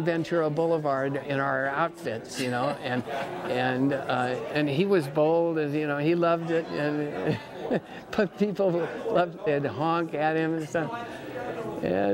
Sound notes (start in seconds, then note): 7.2 laughs